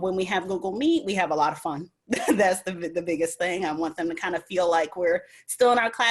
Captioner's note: giggles